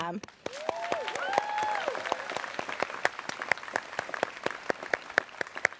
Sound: students cheering

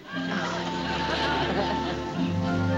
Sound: laughs

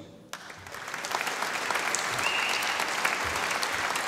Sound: audience applauding

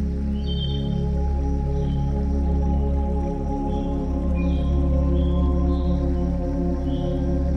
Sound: gentle music; birds singing

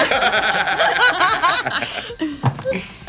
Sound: laughing

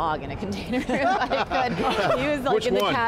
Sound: all laughing

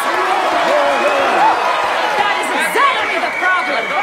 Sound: crowd cheers

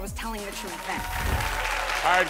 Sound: crowd cheering

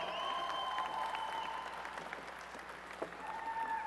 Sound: applause and cheering

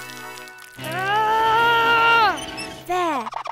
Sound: moaning

